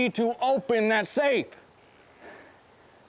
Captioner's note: shouts